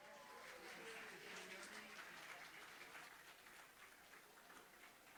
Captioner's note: audience applauding